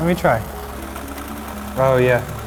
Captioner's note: toy clicking